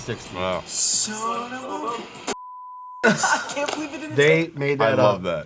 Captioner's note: beep